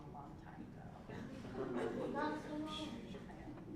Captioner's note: laugh